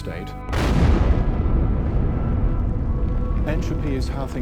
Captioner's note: explosion booms